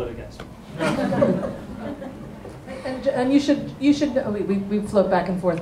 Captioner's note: laughter